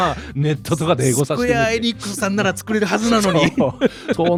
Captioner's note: imitating someone